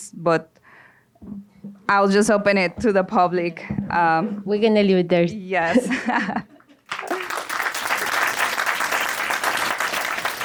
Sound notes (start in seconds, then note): 6.8 audience applauds; 6.9 laughs